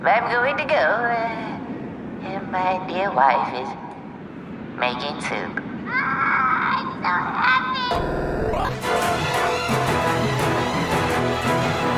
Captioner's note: wailing